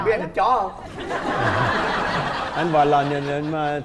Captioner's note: laughing